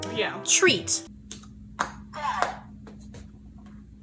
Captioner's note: robotic Voice